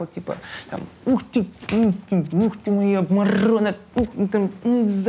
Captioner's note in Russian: сквозь зубы, играючи